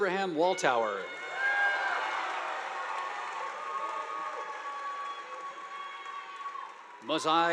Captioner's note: students cheering; audience applauding